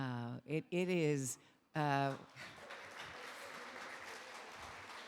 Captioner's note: audience applauding